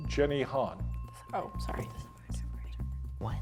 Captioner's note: bell ringing